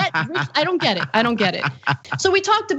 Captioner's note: laugh